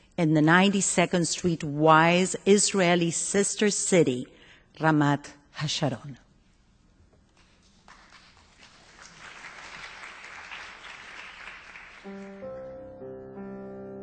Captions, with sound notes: in the 92nd Street Y’s Israeli sister city, Ramat HaSharon. (applause)